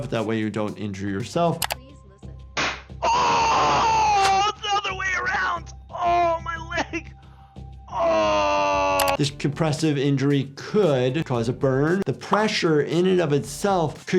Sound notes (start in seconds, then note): 2.6 cannon pops; 3.0 screams; 7.9 groans